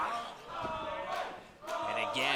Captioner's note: fans chanting